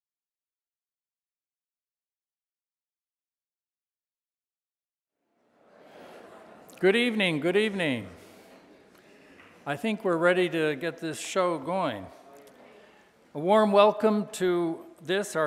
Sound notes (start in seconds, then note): 5.5 audience chattering